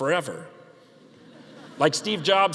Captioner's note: audience laughing